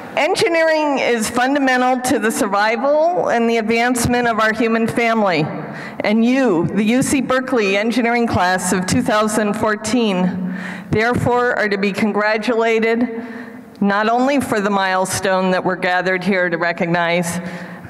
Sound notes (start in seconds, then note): none